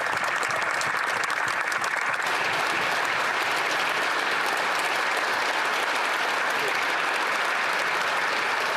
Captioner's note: some applause